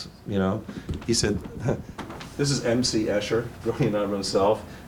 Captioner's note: chuckles